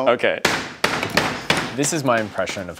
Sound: meat pounder hitting the cutting board

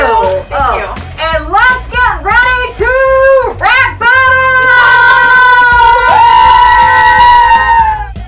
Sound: cheering

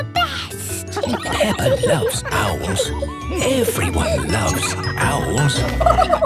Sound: kids giggling; narrator whispering; laughing

